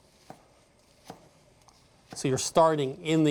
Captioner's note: slicing gently